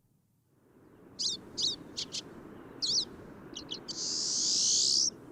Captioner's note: bird singing